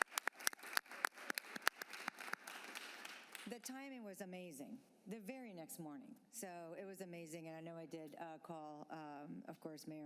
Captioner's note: applause